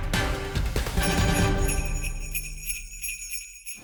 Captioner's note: bells jingling